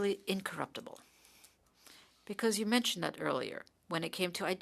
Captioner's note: speaking French